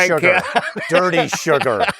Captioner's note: laughing